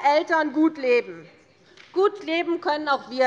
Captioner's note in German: Zurufe von der SPD